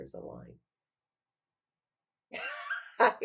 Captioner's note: laughing